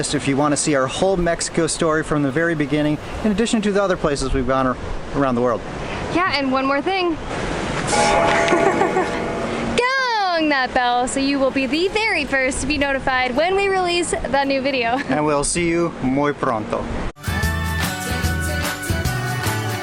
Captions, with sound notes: If you want to see our whole Mexico story from the very beginning in addition to the other places we've gone around the world. Yeah, and one more thing! [Bell Ringing] Gong that bell! So you will be the very first To be notified when we release that new video! And we'll see you muy pronto!